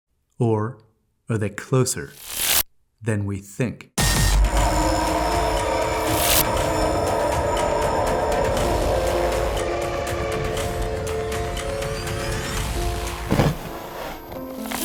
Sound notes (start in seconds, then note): 4.1 thrilling music; 6.2 electricity buzzing; 7.6 thrilling music; 12.8 soil thudding